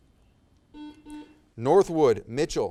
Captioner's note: buzzer